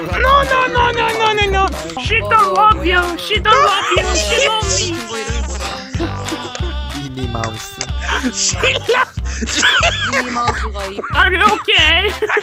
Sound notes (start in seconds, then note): 9.5 laughs in Mouse